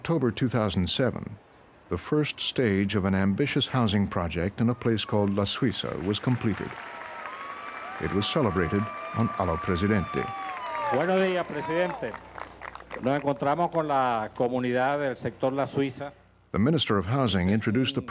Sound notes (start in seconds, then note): 7.4 cheers and applause; 13.0 speaking in Spanish